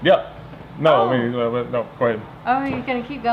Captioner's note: stuttering